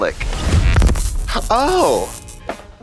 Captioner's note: electricity crackles; light funky music